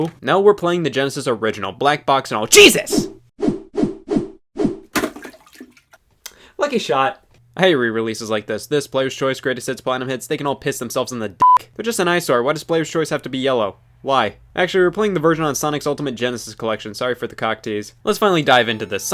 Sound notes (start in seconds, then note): 3.5 swishing sounds; 11.4 beep